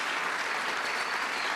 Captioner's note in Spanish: aplausos